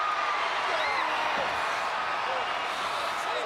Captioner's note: crowd cheering